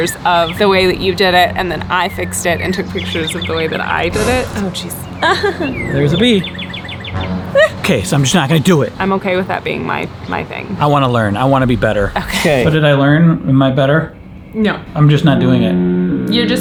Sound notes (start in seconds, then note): 4.0 dramatic clash